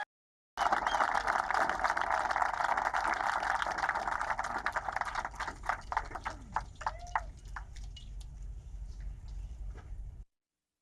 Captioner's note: applause